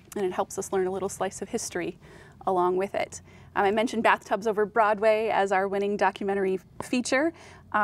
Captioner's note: none